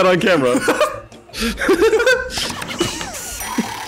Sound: laughter

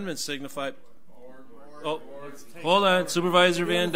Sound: overlapping chattering

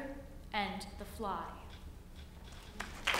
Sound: applause

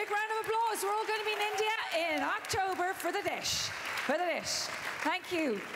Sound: applause

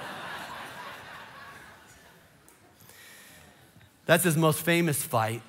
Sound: congregation laughing

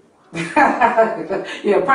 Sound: laughing

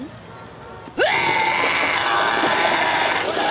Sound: laughs; vomits violently

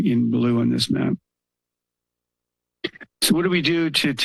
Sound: pause

